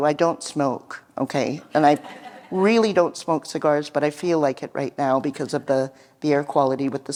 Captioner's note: laughter